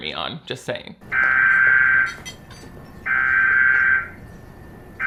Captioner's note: siren wails